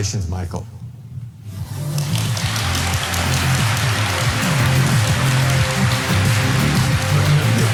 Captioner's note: upbeat music; audience applauding